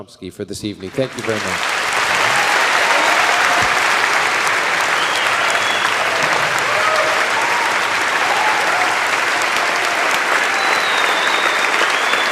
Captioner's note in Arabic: تصفيق